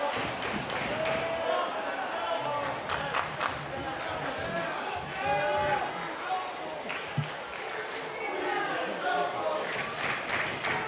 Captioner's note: audience chanting